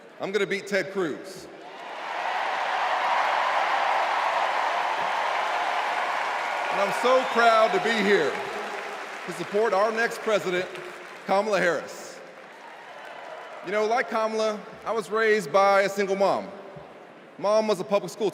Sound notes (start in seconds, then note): 10.1 cheers and applause